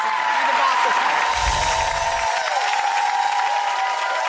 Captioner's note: audience cheers